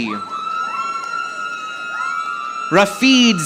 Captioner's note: audience applauding